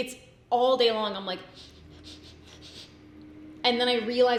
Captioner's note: sniffs